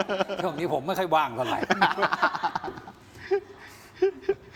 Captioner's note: laughs